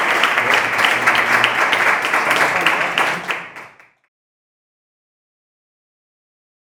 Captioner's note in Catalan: Aplaudiment